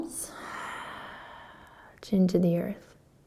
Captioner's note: exhaling